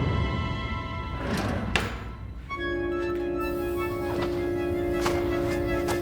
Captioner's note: drawer shuts; shoes crunch